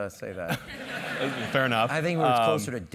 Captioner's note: laugh